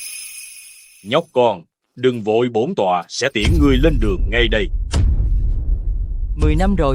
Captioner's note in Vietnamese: chuông